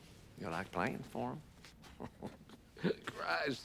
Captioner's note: chuckling